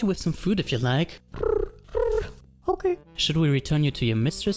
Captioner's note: coos